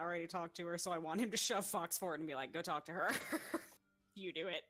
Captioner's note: laughs